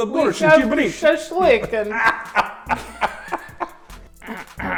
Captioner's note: laughter